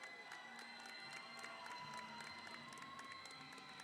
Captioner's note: audience applauds